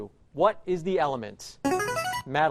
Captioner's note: chiming